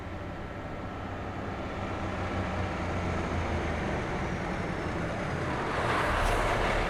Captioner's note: bus engine